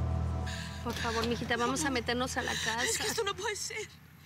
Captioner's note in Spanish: sollozos